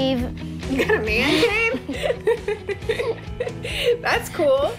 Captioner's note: laughs